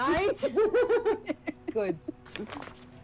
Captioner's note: Both laughing